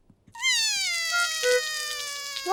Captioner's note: cries